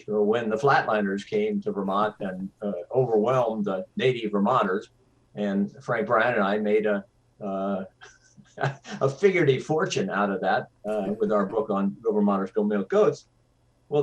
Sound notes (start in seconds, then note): 8.5 laughs